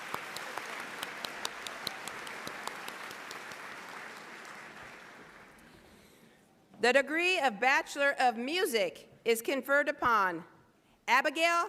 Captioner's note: applause